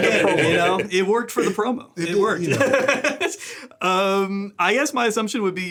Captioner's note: laughs